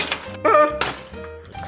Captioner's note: Chewbacca sound